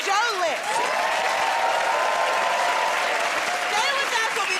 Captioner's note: cheers and applause